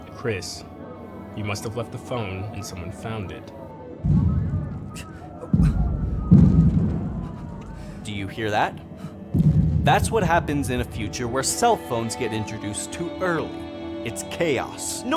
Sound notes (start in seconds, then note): 4.0 explosions booming